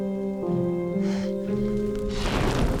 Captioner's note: fire crackling; fire whooshing